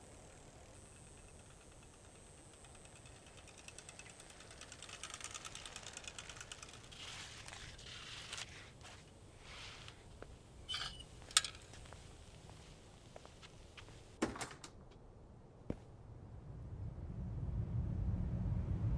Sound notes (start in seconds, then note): 10.6 kickstand creaks; 15.7 vehicles approaching